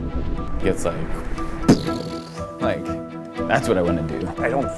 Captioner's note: boom